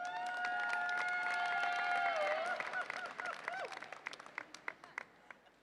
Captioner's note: audience applauds and cheers